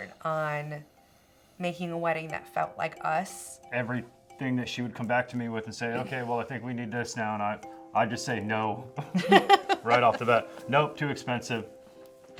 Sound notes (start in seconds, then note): 9.1 laughs